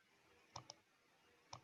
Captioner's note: clicks